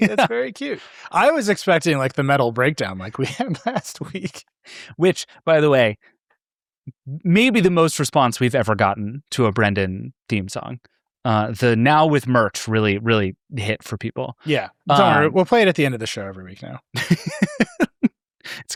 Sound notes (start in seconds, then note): 2.8 laughing; 16.9 laughing